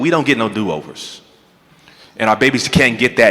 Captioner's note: none